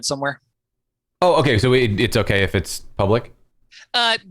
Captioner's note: audio cutting out